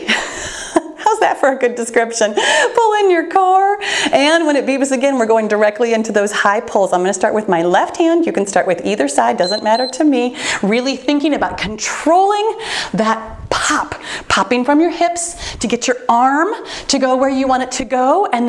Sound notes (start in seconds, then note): 9.4 timer beeps